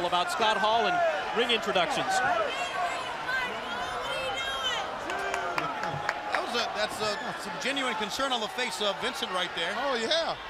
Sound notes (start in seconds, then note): 3.4 crowd chatter